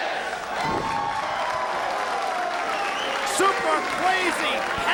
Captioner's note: audience cheering